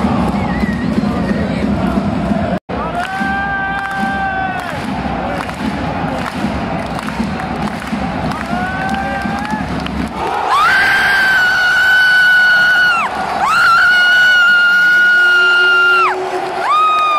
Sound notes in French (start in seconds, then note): 2.8 clap